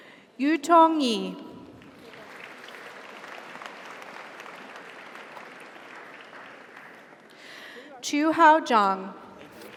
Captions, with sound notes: Yutong Yi. - Congratulations. (audience applauds) (audience cheers) - Qiuhao Zhang. - Congrats.